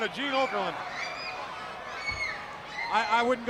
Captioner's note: crowd cheering